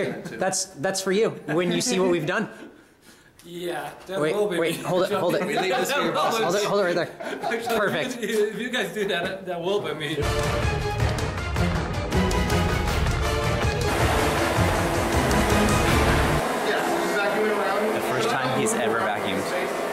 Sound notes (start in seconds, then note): 4.3 people talking over each other, laughing